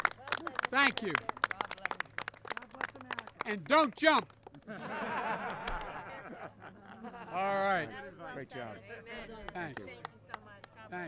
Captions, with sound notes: (Applause.) Thank you. And don't jump. (Laughter.) All right.